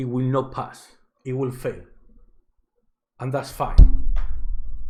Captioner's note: someone hitting the microphone